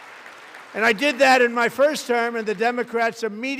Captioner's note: applause